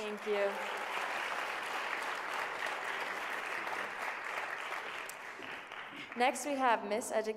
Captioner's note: applause